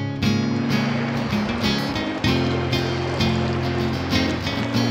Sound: water Running

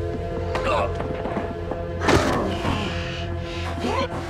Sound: Frank grunts

